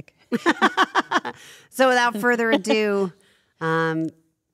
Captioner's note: laugh; laugh